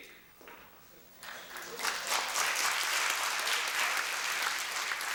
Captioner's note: applause